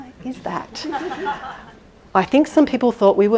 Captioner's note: audience laughing